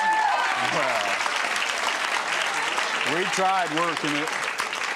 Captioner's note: audience applauds and cheers